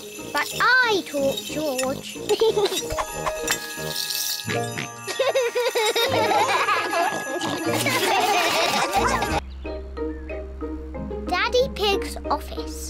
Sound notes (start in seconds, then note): 2.5 giggles; 4.5 snorts and giggles; 6.7 all laugh